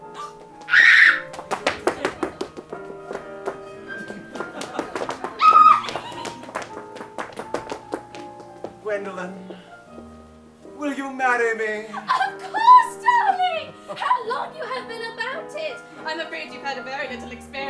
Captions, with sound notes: (Gwendolen gasps and squeals) (audience laughs) (Gwendolen squeals) - Gwendolen, will you marry me? - Of course, darling! How long you have been about it! I am afraid you have had very little experience